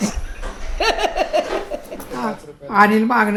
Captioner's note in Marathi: हसतात